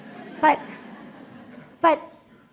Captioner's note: laughter